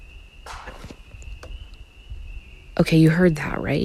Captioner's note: objects clattering